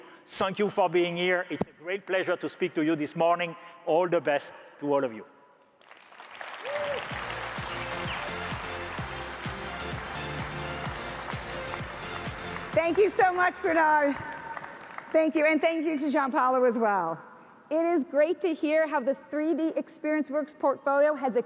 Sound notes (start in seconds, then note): 5.8 audience applauds; 7.0 exciting upbeat music